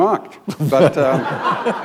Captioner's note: laughter